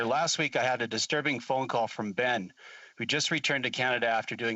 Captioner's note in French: voix de l'interprète